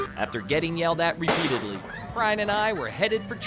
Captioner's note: gunshot